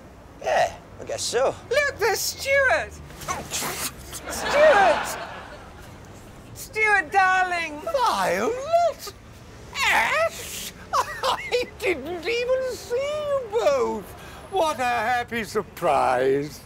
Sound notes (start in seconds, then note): 10.2 laughs